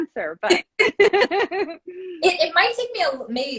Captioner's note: both laugh